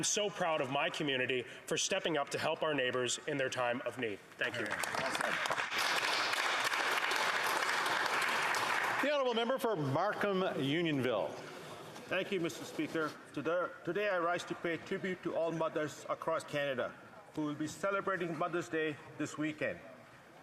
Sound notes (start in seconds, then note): 9.7 some Applause